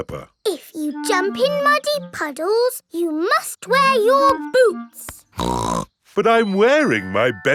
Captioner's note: snorts